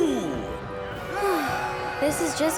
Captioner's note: sighing